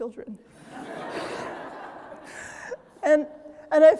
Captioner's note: audience laughing